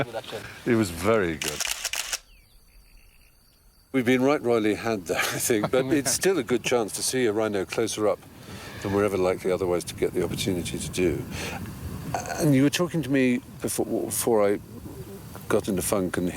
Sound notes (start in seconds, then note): 1.4 camera clicks